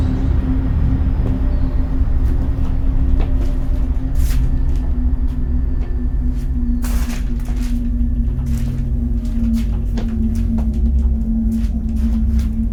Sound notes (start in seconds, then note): 5.2 dramatic music; 6.2 shuffling footsteps